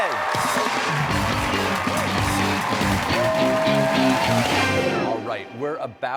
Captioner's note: cheers and applause